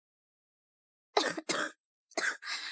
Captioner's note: cough cough